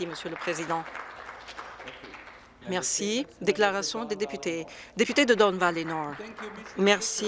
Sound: some Applause

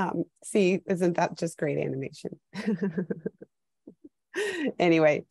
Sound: laughs

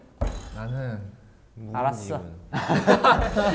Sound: sassy

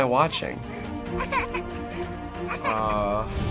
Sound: doll crying

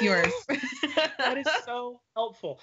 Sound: laughing

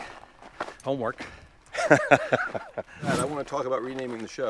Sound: laughing

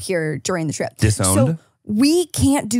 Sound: laughs

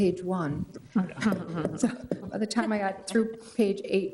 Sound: people chuckling

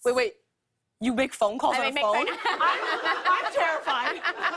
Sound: laughter

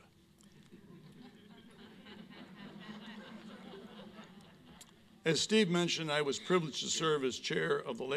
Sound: chuckling

